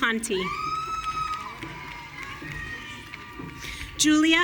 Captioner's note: audience cheering